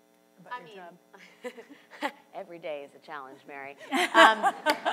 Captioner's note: laughs; and audience laughs